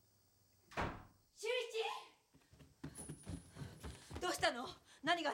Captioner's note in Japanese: ドアが閉まる音